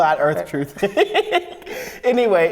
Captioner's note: laughs